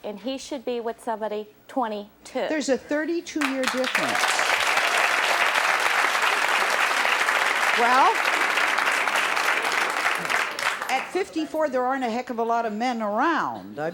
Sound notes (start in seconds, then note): 5.3 audience applause